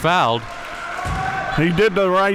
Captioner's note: audience clapping